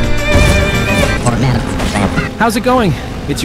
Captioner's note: Radio tuning sounds Bash